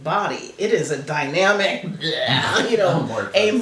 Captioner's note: makes "blahh" sound